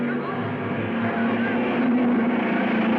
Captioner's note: cars revving; dramatic music